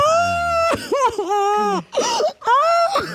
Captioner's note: continues to cry uncontrollably